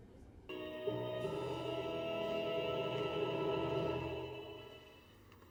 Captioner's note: movie ending noises